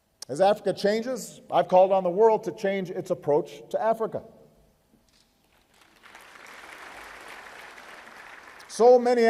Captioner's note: applause